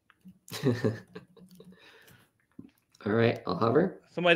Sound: chuckles

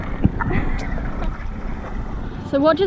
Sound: laughs

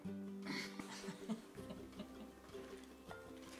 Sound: giggling

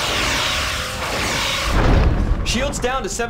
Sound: explosion

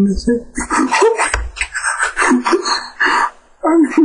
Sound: weird breathing

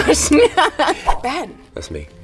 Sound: laughs; logo whooshing

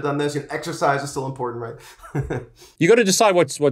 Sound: laughs

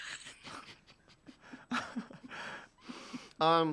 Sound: giggling

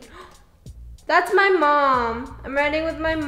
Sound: gasps

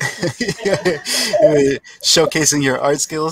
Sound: laughs

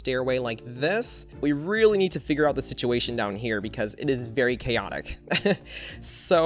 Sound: chuckles

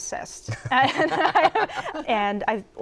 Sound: laughter

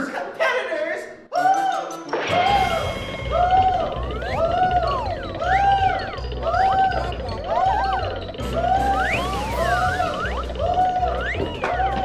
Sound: screams

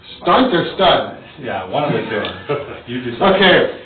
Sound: laughs

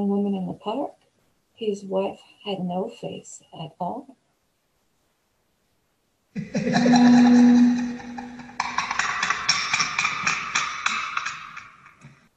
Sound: creepy laughter sound effect & spooky transition

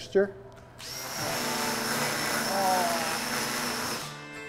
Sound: saw whirring

